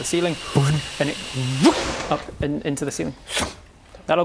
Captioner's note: voot!